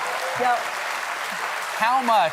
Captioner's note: cheers and applause